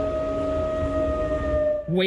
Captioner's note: sirens blaring